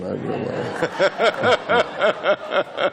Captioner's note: laughing